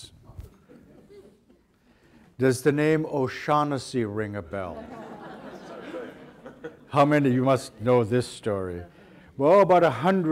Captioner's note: audience laughter